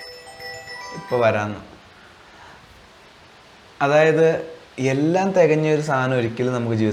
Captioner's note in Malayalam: ബെല്ലടിക്കുന്നു